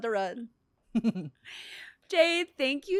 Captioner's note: laughs